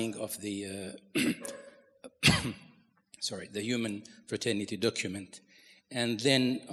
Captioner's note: coughs